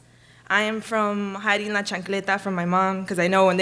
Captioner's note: speaks a foreign language